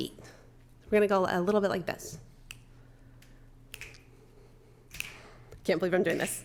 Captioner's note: fingers snapping